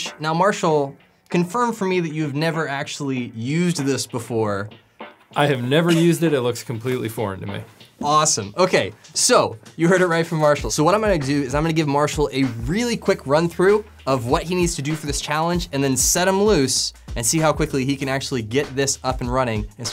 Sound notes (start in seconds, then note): 5.8 laughs